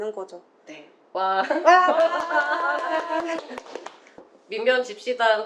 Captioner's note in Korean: 웃음